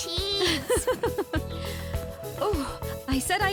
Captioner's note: laughing